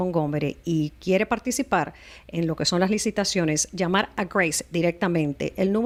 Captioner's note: Hablando ingl\s